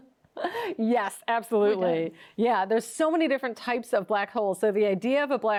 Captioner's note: laughs